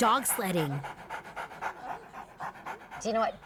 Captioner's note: dog panting